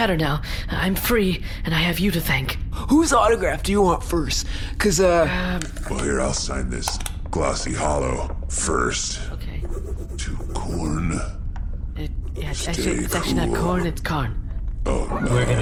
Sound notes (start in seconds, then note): 12.0 writing, muttering aloud